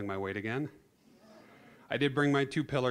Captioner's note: audience laughing